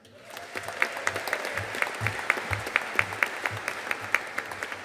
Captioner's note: audience applauding